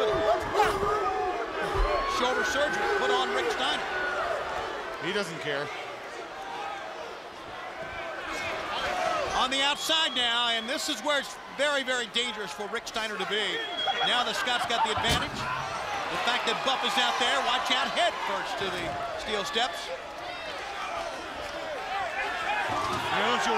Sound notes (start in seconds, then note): 1.7 crowd cheering; 6.8 crowd chatter; 20.1 crowd chatter